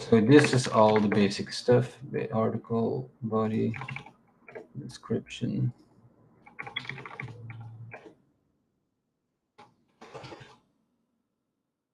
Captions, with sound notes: So this is all the basic stuff. The article, body, description. (keyboard clacking)